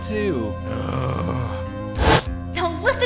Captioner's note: growls